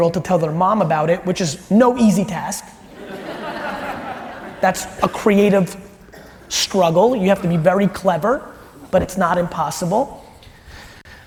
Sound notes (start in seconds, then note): 2.9 audience laughs